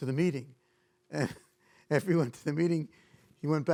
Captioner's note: chuckles